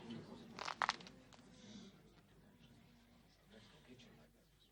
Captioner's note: bones cracking